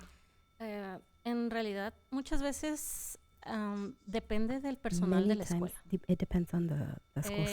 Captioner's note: panelist speaking in Spanish